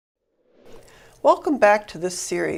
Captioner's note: whoosh